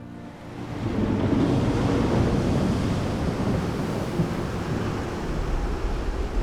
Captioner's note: rumbling, splashing